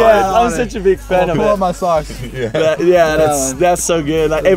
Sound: laughing

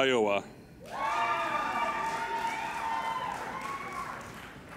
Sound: applauding and cheering

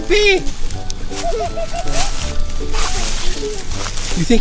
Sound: Peppa laughing

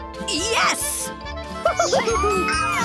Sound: laughs; cheers

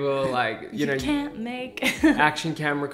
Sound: laughs

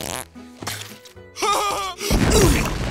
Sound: laughs

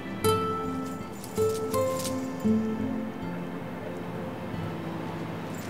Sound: dog collar rattling

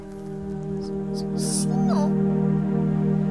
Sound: stutters

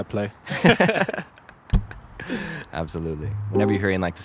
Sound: both laughs

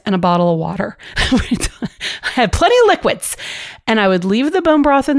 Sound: laughs

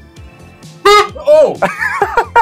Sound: toot

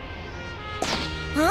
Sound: pop

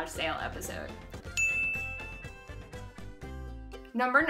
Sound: bell dings

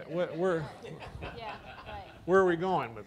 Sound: laughing

